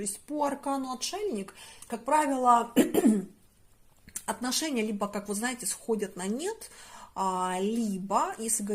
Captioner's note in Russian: откашливается